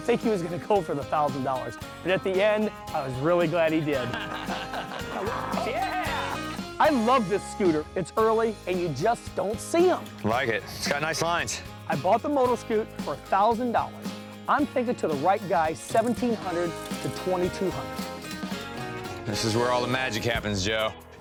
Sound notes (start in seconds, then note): 3.9 laughter